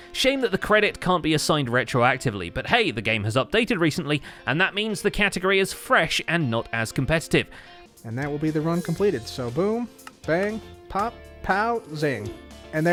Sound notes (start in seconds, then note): 7.8 nonchalantly